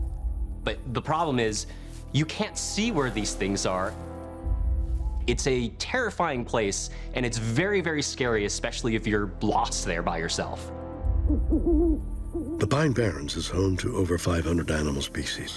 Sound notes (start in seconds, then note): 11.2 owl hooting